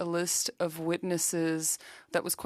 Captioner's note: speaking French